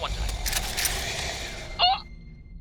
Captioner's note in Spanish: Recarga de arma